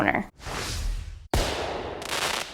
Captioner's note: swishing; fireworks crackling